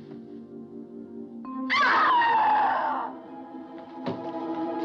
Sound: screams

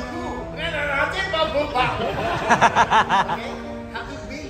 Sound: laughter

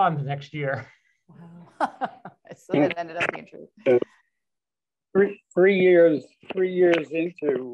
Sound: laughter

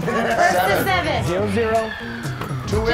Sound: laugh

